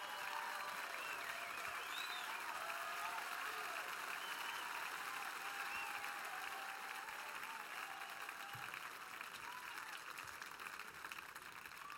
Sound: cheers and applause

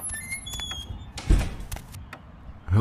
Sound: footsteps; door opens; door slam shut; footsteps

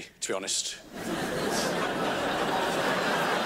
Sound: crowd laughs

